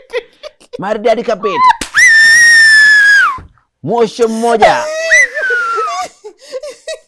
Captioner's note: whistles